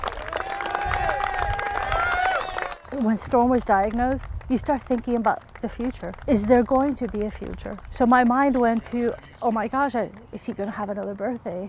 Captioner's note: applause